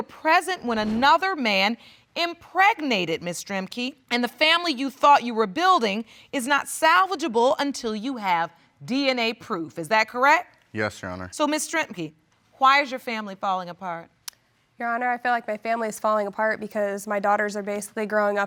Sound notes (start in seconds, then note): 14.2 clicks tongue